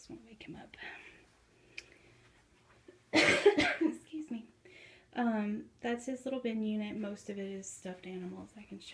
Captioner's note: cough